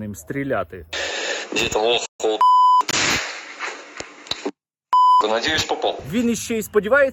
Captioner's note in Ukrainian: звук вистрілу